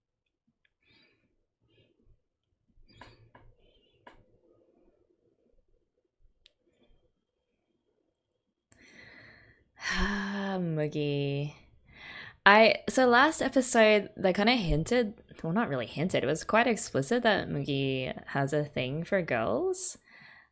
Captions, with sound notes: [sighs] Mugi. I - So last episode, they kind of hinted - well not really hinted, it was quite explicit, that Mugi has a thing for girls.